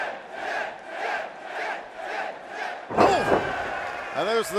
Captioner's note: fans chanting